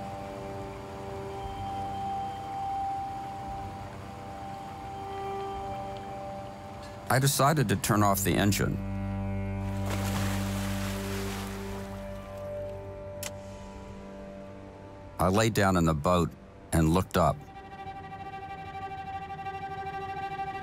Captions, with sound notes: (pensive music) I decided to turn off the engine. (anchor splashes) (switch clicks) I lay down in the boat and looked up. (pensive music)